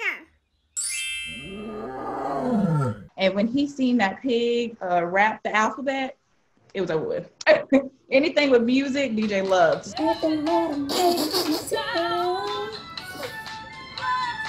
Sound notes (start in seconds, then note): 1.3 roar sound from tablet